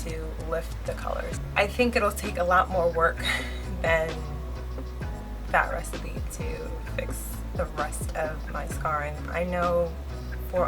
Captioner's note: laughs